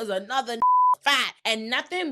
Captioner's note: beep